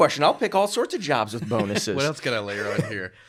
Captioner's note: chuckling